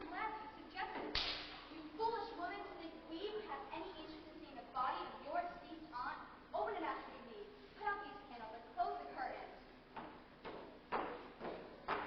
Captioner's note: Slaps Mrs. Johansen